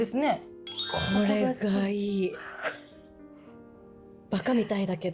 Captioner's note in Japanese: 鼻息